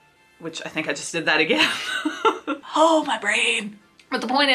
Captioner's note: laughs